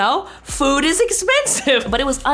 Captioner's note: laughs